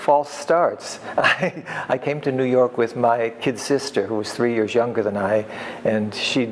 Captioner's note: laughs